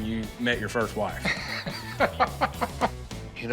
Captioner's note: laughing